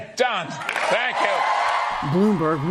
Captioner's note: cheering and applause